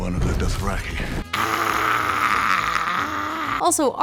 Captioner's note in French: grogne et feule à la fois